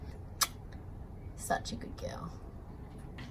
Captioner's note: kissy noise